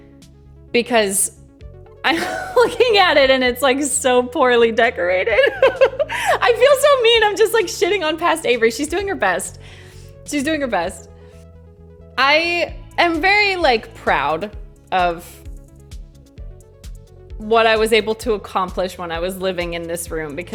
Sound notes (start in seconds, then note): 5.3 laughs